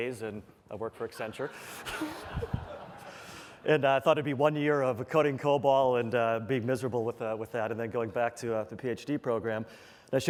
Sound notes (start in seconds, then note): 1.2 laughter